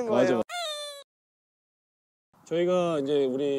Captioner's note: crying